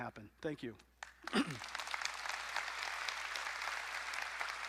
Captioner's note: applause